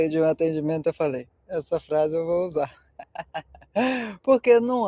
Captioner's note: laughter